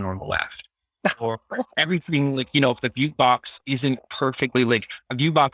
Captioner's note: laughing